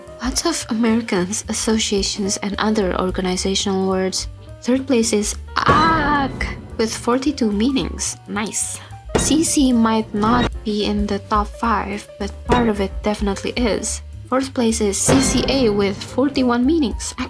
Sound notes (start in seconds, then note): 5.8 yelly